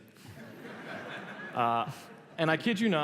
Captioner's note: laughter